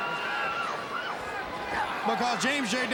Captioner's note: crowd cheering